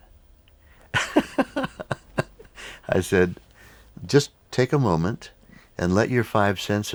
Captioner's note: laughs